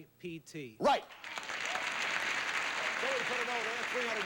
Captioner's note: audience applauding